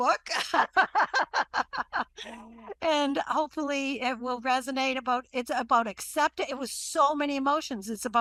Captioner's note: laughs